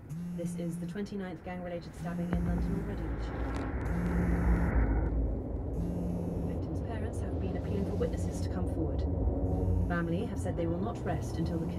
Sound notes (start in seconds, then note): 3.9 phone vibrating